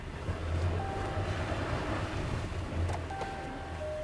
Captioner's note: truck dings